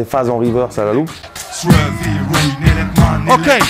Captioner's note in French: beatbox